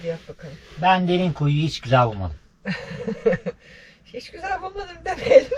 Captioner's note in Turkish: kahkaha